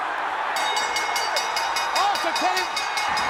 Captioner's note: bell dinging